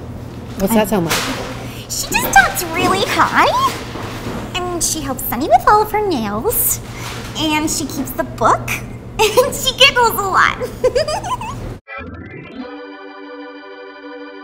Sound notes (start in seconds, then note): 10.6 giggles; 11.9 organ music